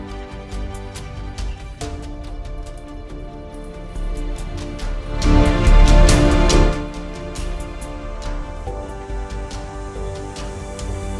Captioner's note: water splashing